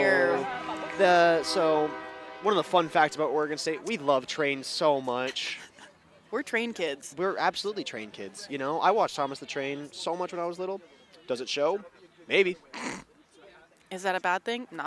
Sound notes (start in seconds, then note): 5.2 chuckles; 12.7 chuckles